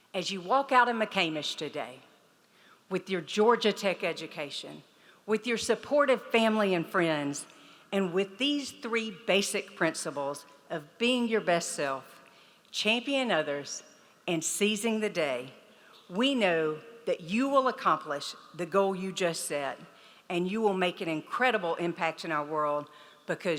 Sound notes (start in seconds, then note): none